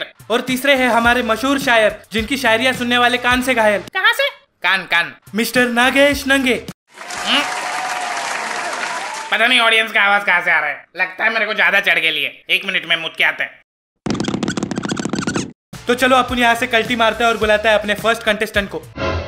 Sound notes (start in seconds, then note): 6.9 clapping sound; 13.7 walking sound